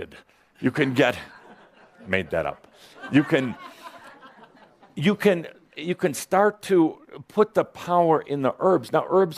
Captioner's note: a few chuckles at his word